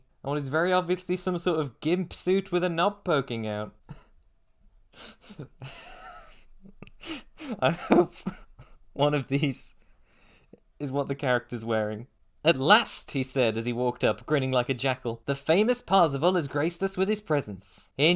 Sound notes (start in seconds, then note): 5.0 laughing; 5.2 laughter